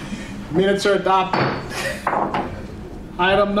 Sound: laughs

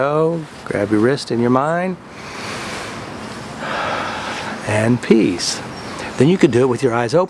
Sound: deep breath

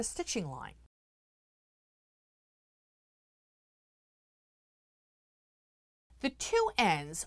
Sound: no Sound Present

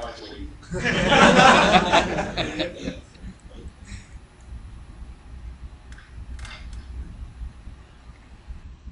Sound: laughs

